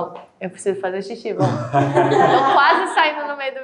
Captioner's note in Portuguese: risos